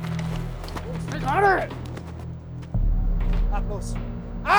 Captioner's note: yells; speaks in foreign language